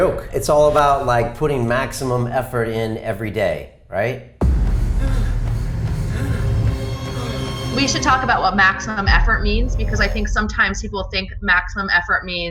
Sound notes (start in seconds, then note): 4.5 laboured breathing